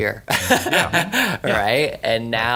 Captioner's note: he laughs